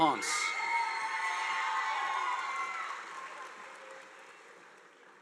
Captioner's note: audience applauding